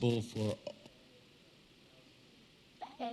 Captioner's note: audio drop